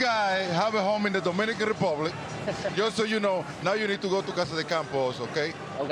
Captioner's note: laughter